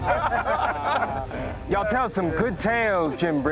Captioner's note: laughter